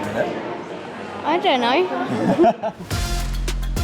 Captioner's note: chuckles